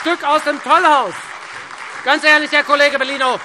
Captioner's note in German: Beifall Freie Demokraten und SPD